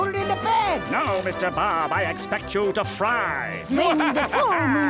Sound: cackling

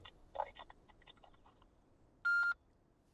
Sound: phone beeps once

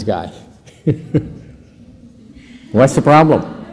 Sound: laugther

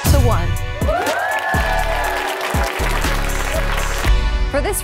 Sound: energetic music; women cheering

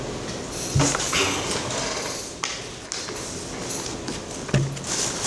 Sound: creaking and shuffling

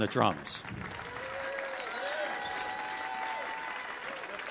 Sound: audience applauding

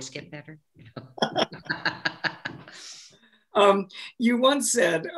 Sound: laughing

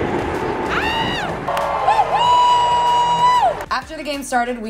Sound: yells

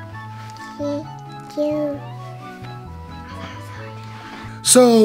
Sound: baby babbles

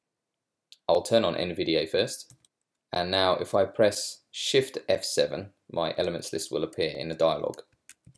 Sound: click

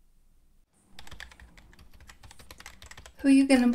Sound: typing

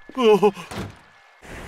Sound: door slam

